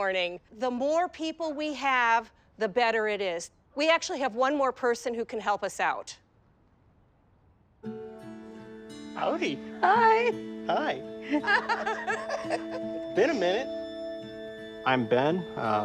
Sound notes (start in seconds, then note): 11.2 laughs